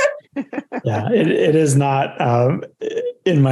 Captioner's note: laughs